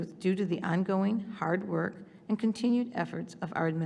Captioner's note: none